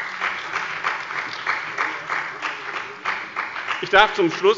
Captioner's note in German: Beifall bei dem BÜNDNIS 90/DIE GRÜNEN und der SPD